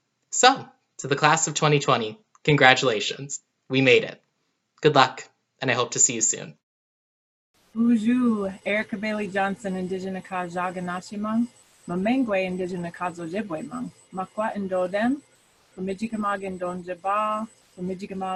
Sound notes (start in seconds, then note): 7.5 speaks foreign language